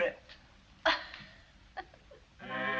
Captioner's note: laughs